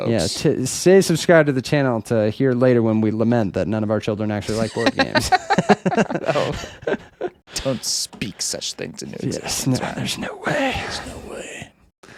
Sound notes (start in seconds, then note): 4.4 laughing